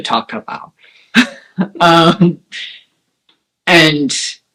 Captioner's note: laugh